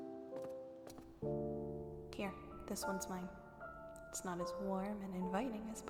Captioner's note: footsteps end